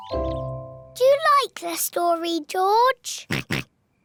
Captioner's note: oinks